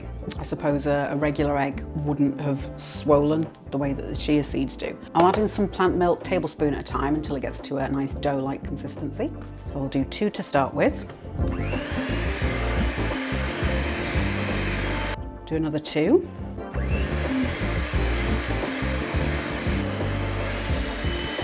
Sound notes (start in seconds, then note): 11.4 cake mixer whirring